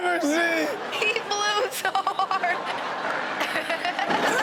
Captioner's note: laughs